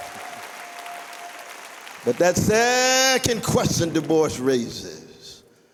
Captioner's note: applause